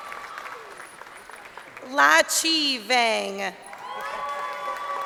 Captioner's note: crowd cheering